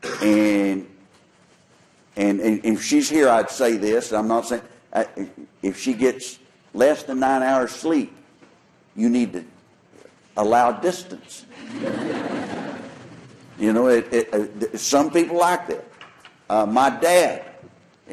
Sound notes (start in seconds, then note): 11.5 laughter